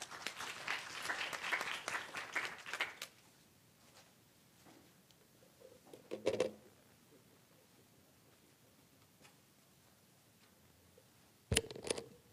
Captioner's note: applause